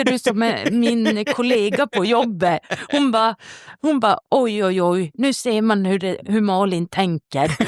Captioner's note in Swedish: skratt; skratt